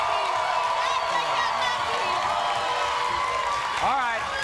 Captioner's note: audience cheers